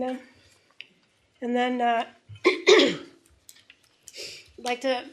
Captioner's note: clears throat